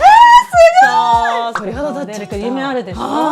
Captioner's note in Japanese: 叫び声